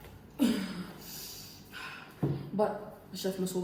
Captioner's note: breathing sounds